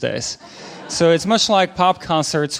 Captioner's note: audience laughing